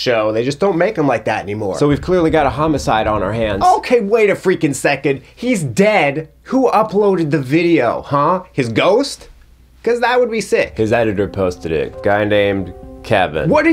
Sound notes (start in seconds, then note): none